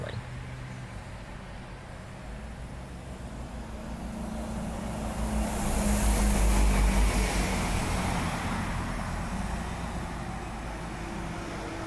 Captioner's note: bus Noises